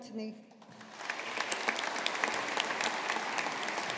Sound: audience applauding

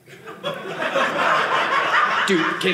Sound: audience laughing

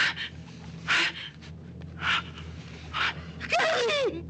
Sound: Georgia groaning

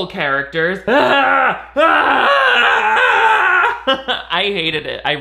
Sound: screaming

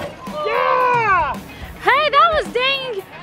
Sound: yells

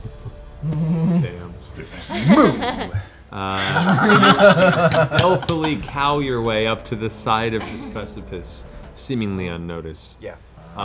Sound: chuckles

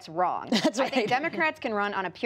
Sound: laughter

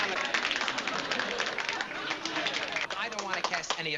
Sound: applause

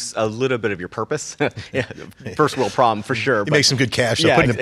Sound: laughs

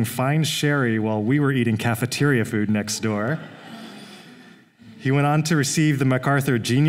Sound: laughter

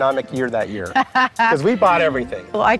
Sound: laughing

